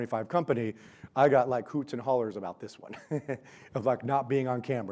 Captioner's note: laughs